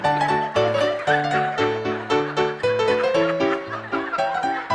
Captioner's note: audience Laughing